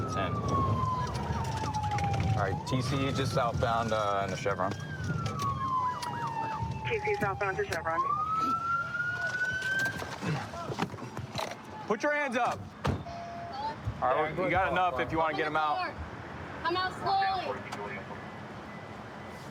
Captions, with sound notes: [sirens] All right. TC just southbound in the Chevron. TC southbound to Chevron. [sirens] Put your hands up! You got enough if you want to get him out. Open the door! Come out slowly!